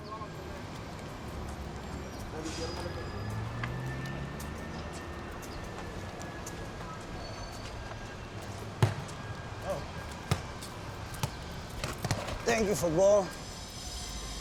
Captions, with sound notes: [birds chirping] [ball slapping pavement] - Thank you, football!